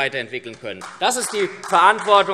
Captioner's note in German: Beifall SPD